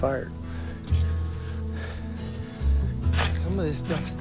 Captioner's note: panting